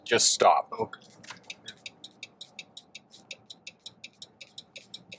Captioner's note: car signaling